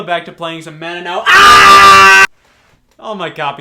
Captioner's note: screams